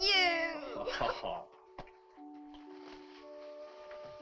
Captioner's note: Chase laughs